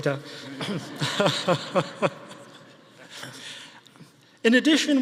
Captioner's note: audience laughing